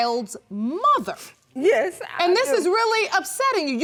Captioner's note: sobbing